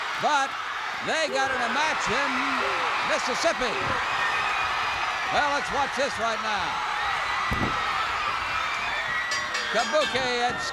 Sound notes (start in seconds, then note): 3.6 crowd cheers; 9.2 bell rings